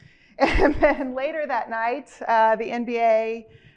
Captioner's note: chuckles